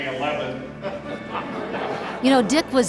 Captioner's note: laughter